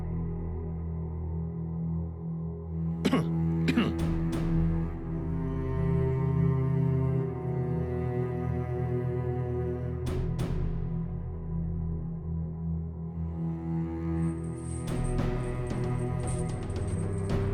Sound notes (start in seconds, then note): 3.6 clears throat; 4.0 suspenseful music; 14.4 chains rattling